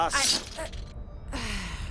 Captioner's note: sigh